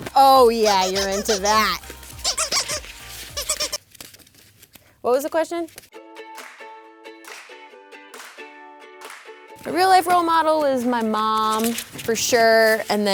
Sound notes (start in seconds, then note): 1.9 toy squeaking; 5.9 soft music